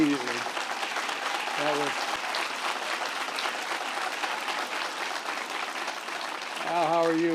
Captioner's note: applause